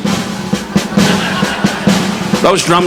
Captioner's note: audience laughing